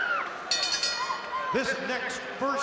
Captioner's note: bell rings